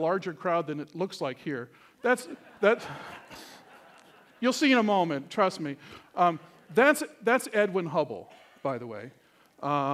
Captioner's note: laughter